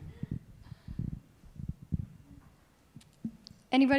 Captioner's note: chuckles